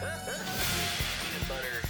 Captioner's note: transition whooshes